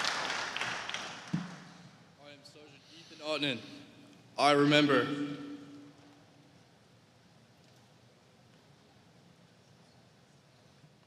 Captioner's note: applause